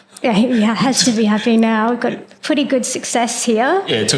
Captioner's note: laugh